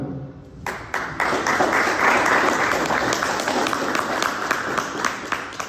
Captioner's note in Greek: χειροκρότημα